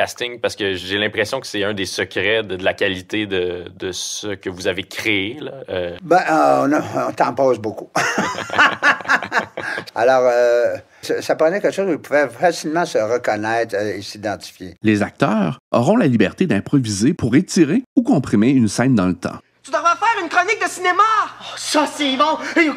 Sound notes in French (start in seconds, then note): 8.0 Rire